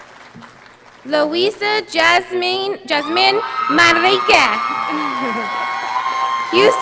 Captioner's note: audience applauding